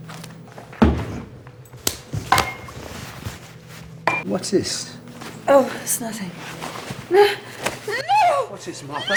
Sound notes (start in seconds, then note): 1.7 bottle rattling; 1.8 hand slapping